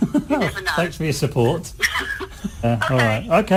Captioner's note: Risas